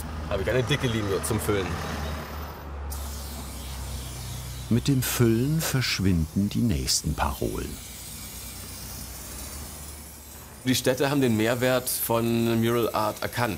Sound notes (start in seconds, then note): 2.3 hissing spray can, rushing traffic; 7.9 hissing spray can